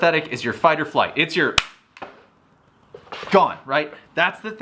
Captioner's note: hands slap